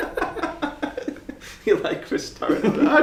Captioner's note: laughing